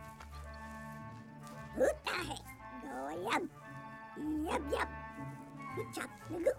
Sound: Speaking Ewokese

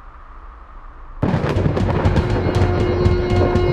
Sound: thunder rumbles

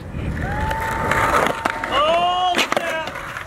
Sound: mom cheers

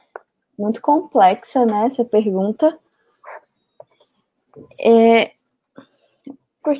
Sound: speaks portuguese

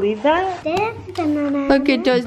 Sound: humming

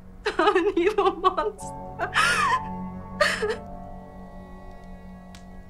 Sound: sobbing

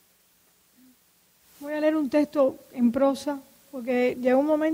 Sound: speaking in Spanish

